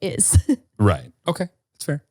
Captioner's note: laughing